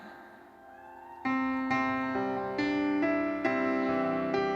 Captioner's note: gentle uplifting music; audience cheering